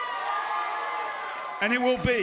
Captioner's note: cheers and applause